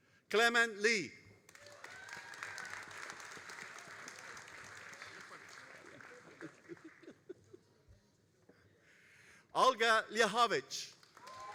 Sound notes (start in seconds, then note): 1.4 all applauding